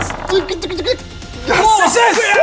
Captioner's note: scared noises